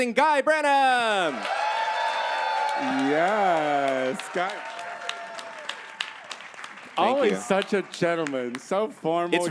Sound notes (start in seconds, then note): 1.1 audience cheers